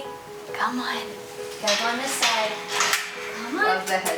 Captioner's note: cage door clicking